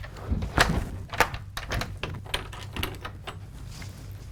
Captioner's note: lock clicks